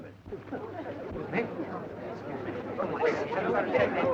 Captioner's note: crowd murmuring